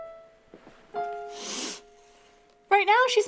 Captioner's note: Peach sniffs